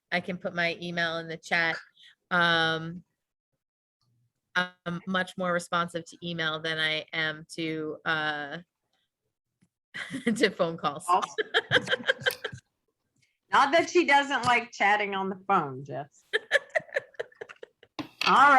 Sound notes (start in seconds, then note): 11.1 laughs; 16.3 laughs